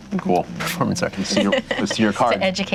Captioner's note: laughing